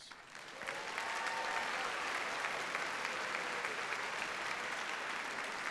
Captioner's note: audience cheers and applauds